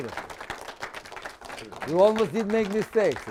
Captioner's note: applause